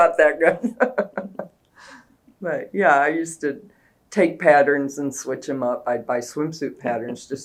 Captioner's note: laughs